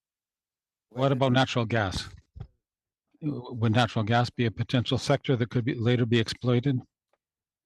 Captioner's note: speaking French